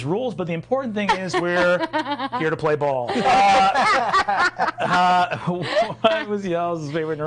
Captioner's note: others laughing